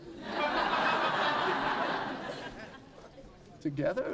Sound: audience laughing

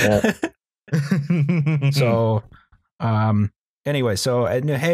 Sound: chuckles darkly

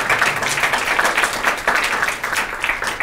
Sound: applause

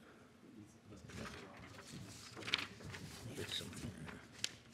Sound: faintly speaking; papers rustling

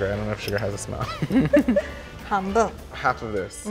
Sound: laughs

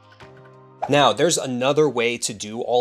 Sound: graphics whooshing; soft ambient music; graphics whooshing

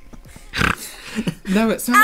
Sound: snorting

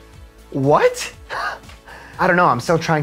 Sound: laughing

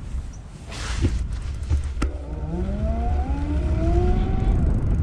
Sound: bicycle motor roaring

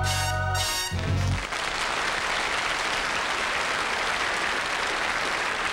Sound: audience applauding

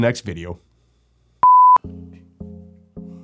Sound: beeping; music upbeat piano

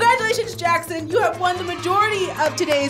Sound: crowd cheers

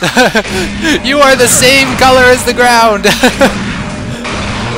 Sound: laughs

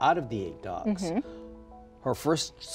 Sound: laughs

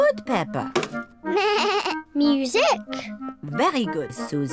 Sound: bleats

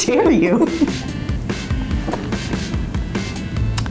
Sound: laughing

